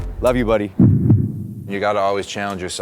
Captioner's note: heart beats